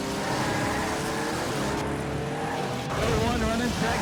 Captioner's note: engine revving; tires screeching